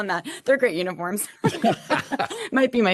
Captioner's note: laughter